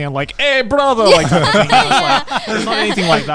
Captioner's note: laughing